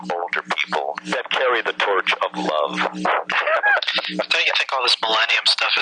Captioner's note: laughing